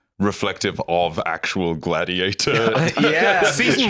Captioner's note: laughs